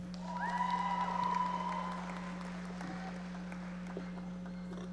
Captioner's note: audience applauding